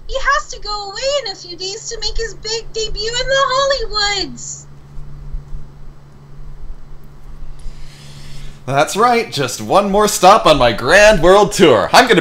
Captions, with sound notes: "*sigh* I'm going there to -study-..." / "Yes, my big debut...wait, what?"